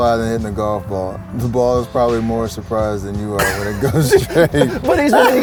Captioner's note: laughs